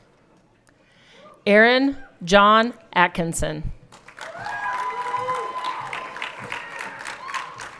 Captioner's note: everyone cheering